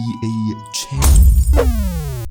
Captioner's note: punch